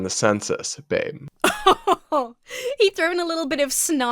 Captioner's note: laughs